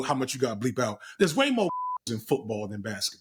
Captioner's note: beep